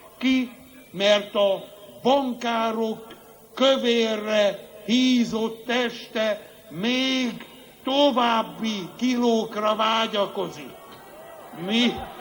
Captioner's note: booing